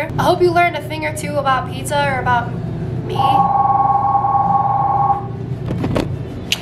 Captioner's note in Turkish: zil çalar